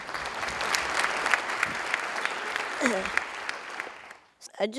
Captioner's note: Khán giả vỗ tay